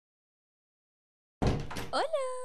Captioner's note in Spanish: Se abre una puerta